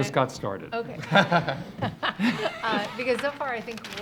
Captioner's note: audience laughs